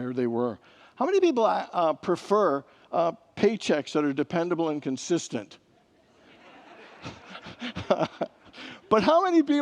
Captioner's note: congregants laugh